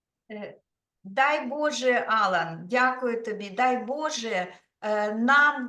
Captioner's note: speaking Ukrainian